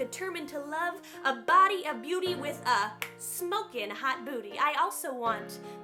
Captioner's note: snaps